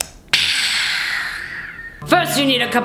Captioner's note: ahhhhh